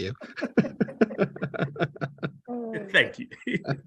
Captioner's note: laugh